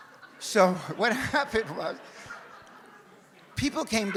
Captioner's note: audience laughs; audience continues laughing